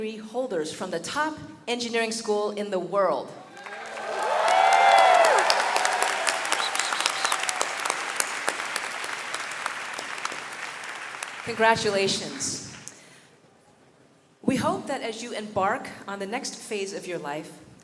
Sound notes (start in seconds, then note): 3.4 audience cheering and clapping